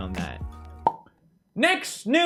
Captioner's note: poppy pops again